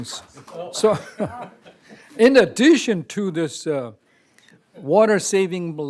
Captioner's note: applause